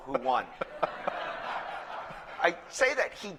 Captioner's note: laughter